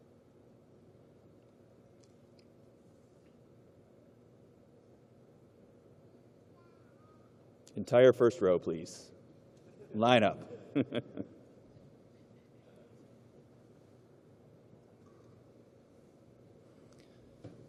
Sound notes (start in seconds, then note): 4.5 chuckling